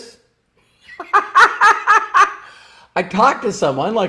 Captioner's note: laughs